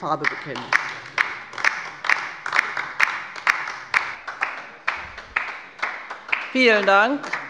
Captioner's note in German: Beifall bei der LINKEN